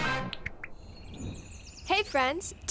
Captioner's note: background birds chirping